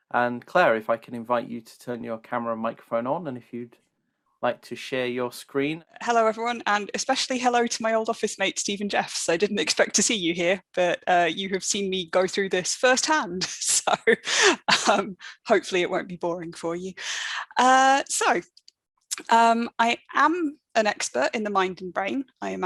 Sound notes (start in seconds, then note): 13.9 laughs